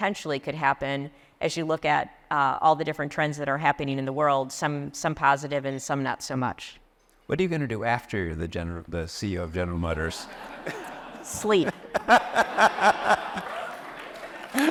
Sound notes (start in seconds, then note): 10.4 laugh; 12.9 applause